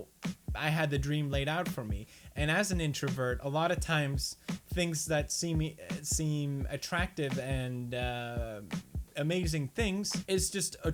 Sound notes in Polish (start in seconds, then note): none